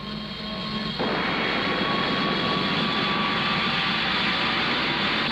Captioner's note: rockets firing